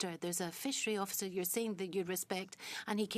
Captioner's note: speaking in French